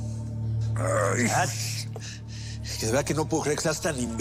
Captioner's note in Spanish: Quejido